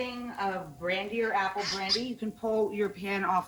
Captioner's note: cork squeaking